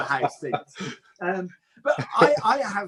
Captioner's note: laughs